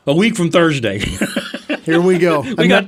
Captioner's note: laughing